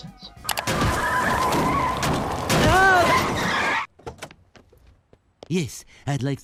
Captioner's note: car squealing and hitting bumps